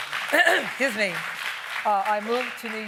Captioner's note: applauding